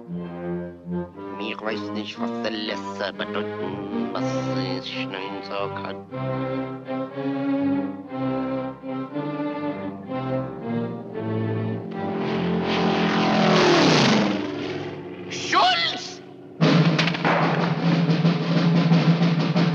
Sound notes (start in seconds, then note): 11.6 airplane roars